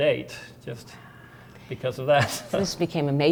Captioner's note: giggling